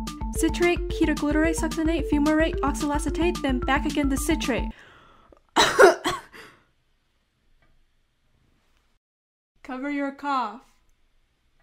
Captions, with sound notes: Citrate, ketoglutarate, succinate, fumarate, oxaloacetate then back again to citrate [coughs] "cover your cough"